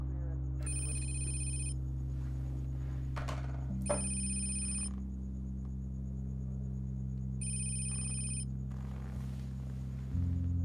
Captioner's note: telephone rings